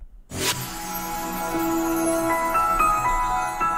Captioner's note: air whooshing; soft music